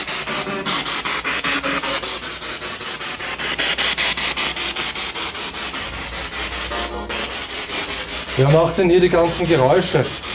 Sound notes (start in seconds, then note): 2.3 radio noise from the spirit box